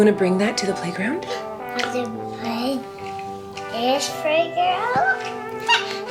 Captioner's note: toddler gibberish